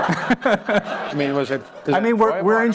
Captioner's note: laughter